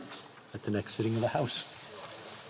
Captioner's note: speaking French